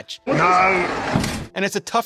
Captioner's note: door slams